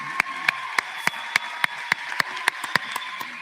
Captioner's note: applause